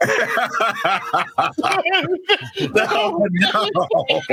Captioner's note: laughing